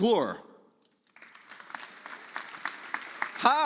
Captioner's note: audience applauds